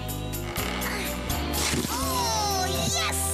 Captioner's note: straining